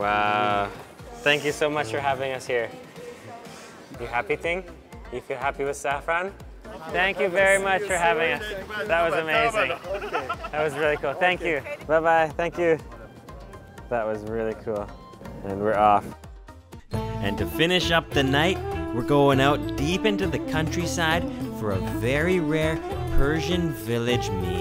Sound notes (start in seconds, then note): 9.2 laughs; 9.4 taster speaking Persian; 17.0 persian music